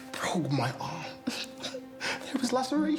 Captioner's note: Dana laughing